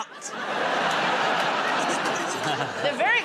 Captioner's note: laughter